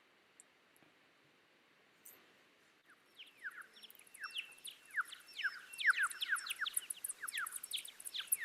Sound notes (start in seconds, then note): 3.1 bats echoing